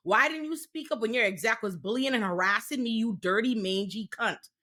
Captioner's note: none